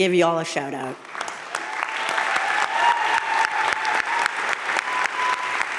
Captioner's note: crowd cheering and applauding